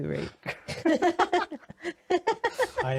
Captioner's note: laughing